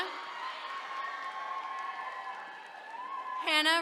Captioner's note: attendees cheering